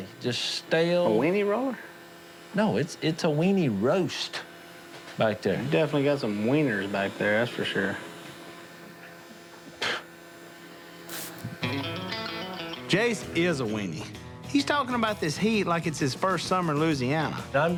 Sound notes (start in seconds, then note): 9.9 scoffs; 10.9 spray hisses